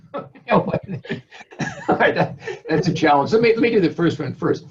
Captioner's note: laughs